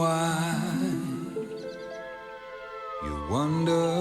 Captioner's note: siren blaring